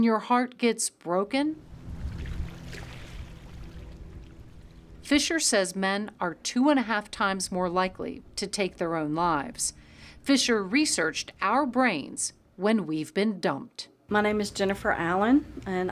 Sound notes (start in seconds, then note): 1.6 water laps